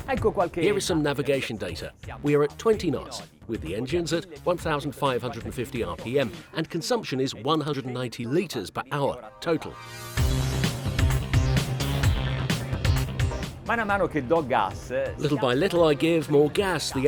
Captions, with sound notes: Here are some navigation data. We are at 20 knots with the engines at 1,550 RPM. And consumption is 190 liters per hour, total. (driving electronic music) (speaking foreign language) Little by little I give more gas,